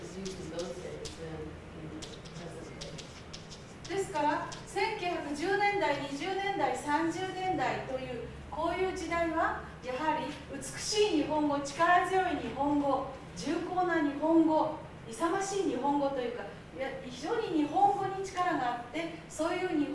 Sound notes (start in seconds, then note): 4.2 speaking Japanes